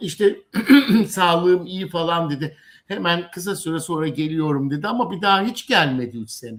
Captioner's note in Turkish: boğazını temizler